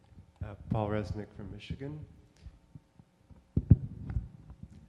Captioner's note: voiceover